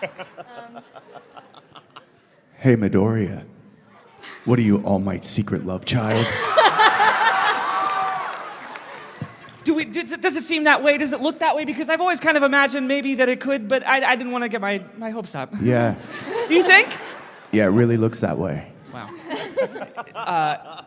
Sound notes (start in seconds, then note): 6.3 cheering, applause; 9.4 stammering